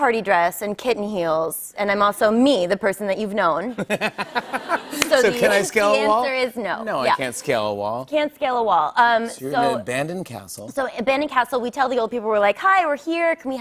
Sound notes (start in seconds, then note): 3.7 laughter